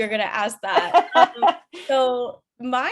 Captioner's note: chuckles